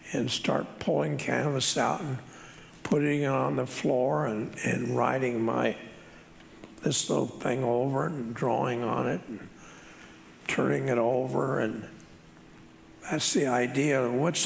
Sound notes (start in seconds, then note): none